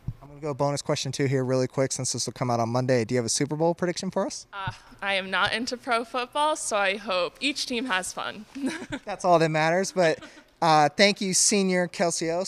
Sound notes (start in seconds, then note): 8.5 laughs